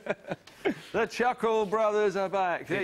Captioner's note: chuckling